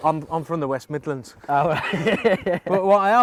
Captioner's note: laughter